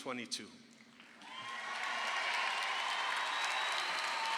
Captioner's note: crowd cheers